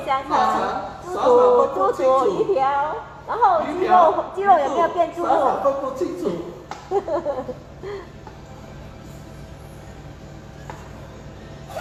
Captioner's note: haha